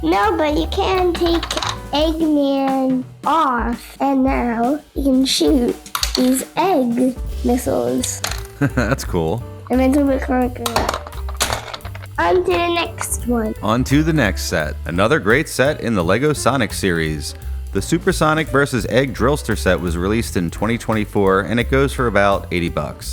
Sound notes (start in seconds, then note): 8.5 laughing; 11.2 crash